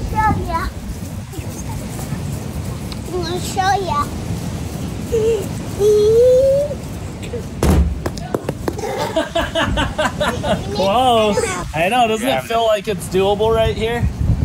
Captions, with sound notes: Ill show you. I'm gonna show you. (laughing) - Close. I know doesn't it feel like its doable right here?